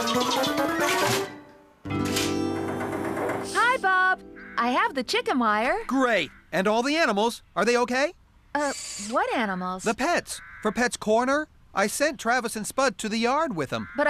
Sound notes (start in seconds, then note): 0.9 clunk!